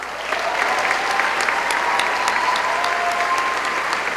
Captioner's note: cheering